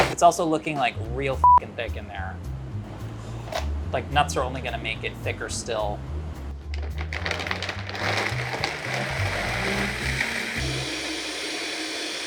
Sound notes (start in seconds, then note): 6.9 blender sound effect